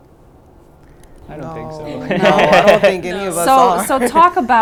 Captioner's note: laughter